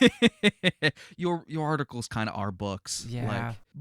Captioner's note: laughing